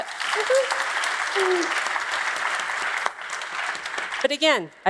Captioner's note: applause